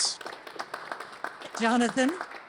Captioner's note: applause